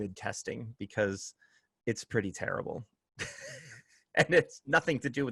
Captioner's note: laughter